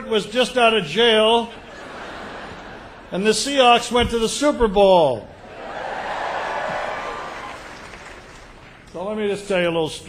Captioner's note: cheers